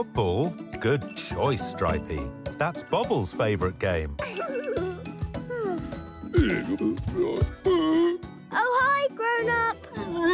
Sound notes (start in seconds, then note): 4.2 giggling; 6.6 grumbling